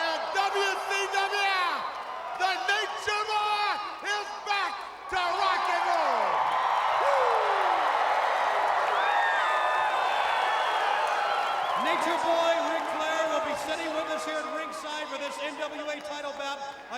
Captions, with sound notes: And WCW, the Nature Boy is back to rock and roll. Woo! (crowd roaring) Nature Boy Ric Flair will be sitting with us here at ringside for this NWA title bout